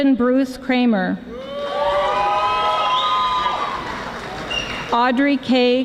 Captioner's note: audience applauding